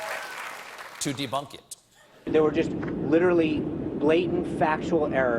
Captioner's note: cheers and applause